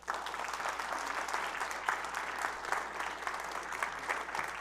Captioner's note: audience applauds